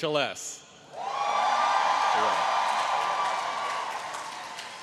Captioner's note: audience cheering